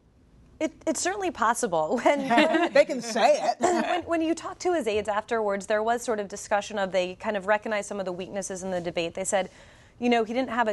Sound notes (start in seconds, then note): 2.0 laughter